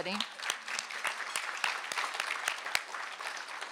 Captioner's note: applause